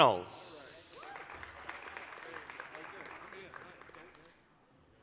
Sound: applause

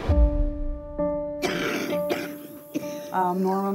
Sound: coughing

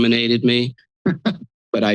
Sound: laughs

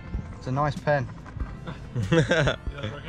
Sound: laughing

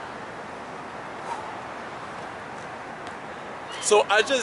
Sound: exhales

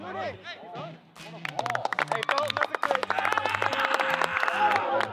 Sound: players applaud

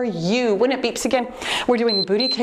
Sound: timer beeps

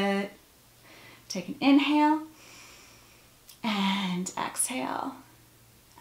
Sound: breath

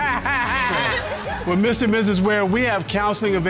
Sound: laughs

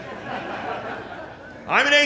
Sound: laughter

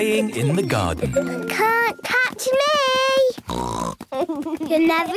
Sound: snort

